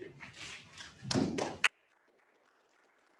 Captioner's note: applause